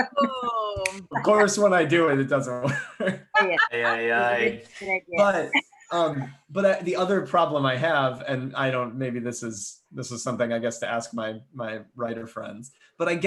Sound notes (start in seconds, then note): 3.3 laughs